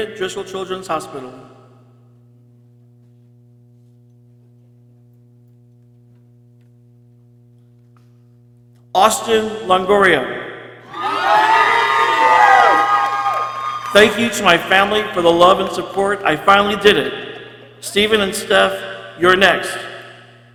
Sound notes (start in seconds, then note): 10.8 people cheering